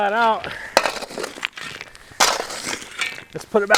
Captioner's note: shovel scraping